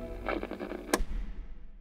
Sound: radio turns off

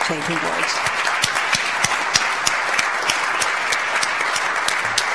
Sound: audience applauds

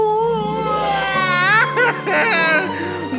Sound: crying

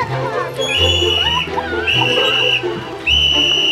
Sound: whistle blows

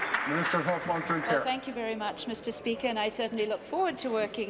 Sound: applause

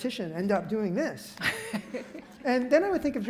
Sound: laughs

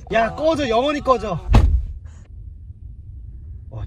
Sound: slam

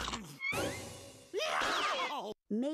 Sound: scrunching; screaming

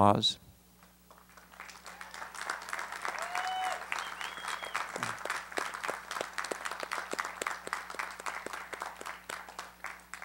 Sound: applause

